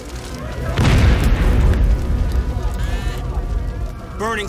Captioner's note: loud explosion